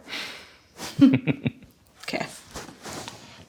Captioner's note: both chuckle